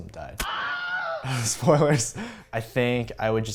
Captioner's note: laughs